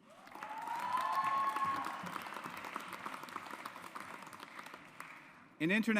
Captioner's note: audience applauds